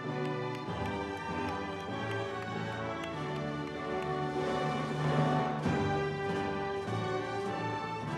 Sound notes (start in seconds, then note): 0.0 audience cheers; 0.0 soft music continues